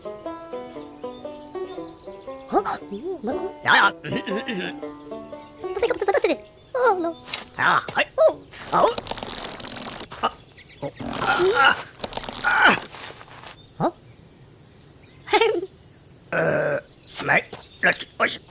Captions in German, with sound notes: Ho! Ja, ja. (aufgeregtes Gebrabbel) Hau. * Knarren * Oh! Oh! * Knarren * Ho? (lacht) Äh!